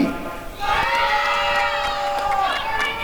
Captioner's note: applause and cheering